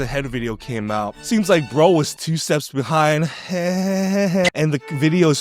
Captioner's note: laughs